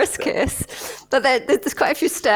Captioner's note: laughter